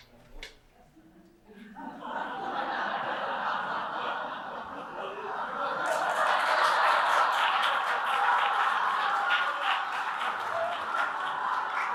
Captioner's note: laughter & applause